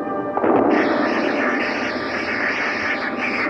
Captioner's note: lightning